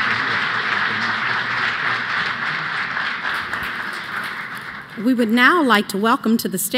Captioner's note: applause